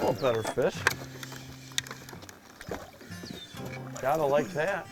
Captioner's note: voiceover